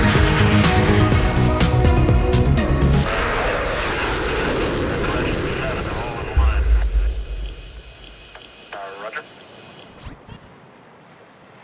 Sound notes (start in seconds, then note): 0.0 upbeat music; 5.8 chatter over radio